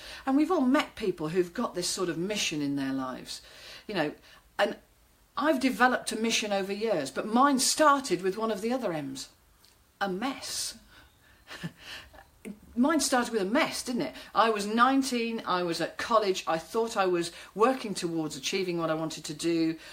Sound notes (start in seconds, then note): 11.4 chuckling